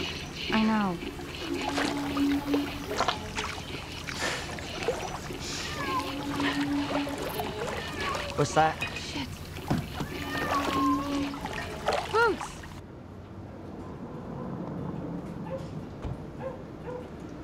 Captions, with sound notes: I know. *Cat meowing* What's that? Shit. Boots!